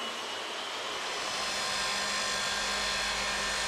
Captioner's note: saw screeching